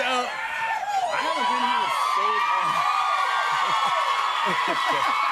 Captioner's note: cheers and applause